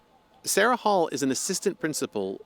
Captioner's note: voice-over